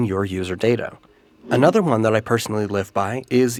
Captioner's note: whoosh